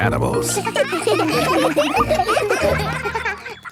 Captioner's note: children laughing